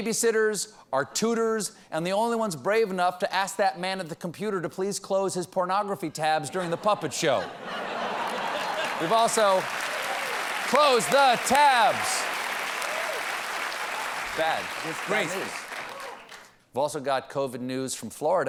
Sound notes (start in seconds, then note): 6.5 laughter; 8.7 applause